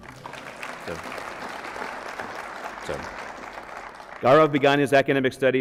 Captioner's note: applause